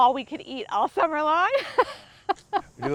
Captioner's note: laughs